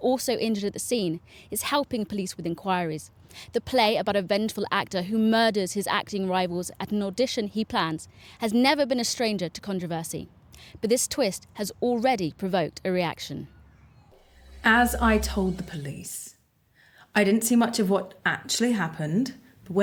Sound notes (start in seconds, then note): none